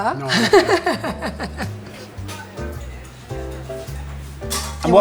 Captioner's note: laughing